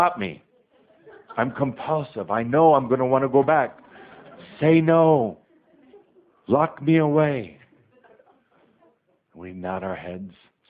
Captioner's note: audience laughter; more laughter